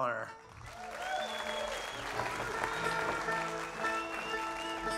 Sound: audience cheers; tuning instruments

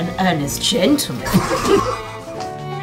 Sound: laughter

